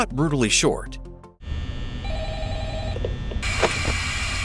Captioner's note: phone ringing